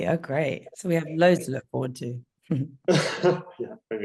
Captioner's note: laughing